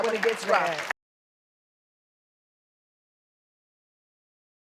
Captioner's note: audience applause